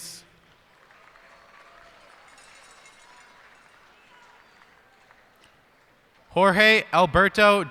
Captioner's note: cheers and applause